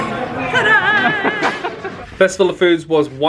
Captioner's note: laughing